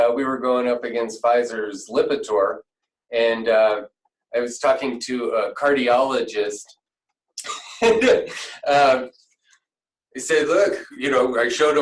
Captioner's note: laughter